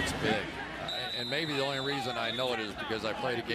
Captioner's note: whistle